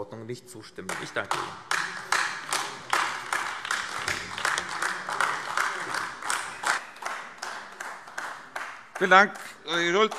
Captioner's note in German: Beifall AfD